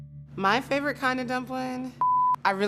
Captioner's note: beeping